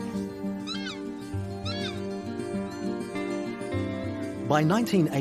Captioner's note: takahe screeching